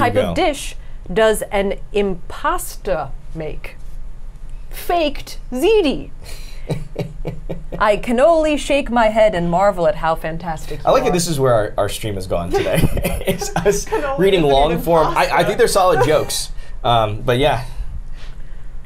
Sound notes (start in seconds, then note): 6.6 laughs; 12.5 laughs